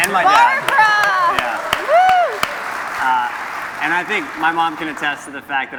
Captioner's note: cheers and Applause